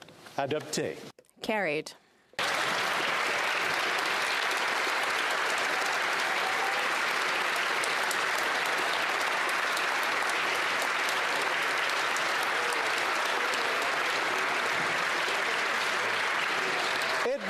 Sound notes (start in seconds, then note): 6.6 applause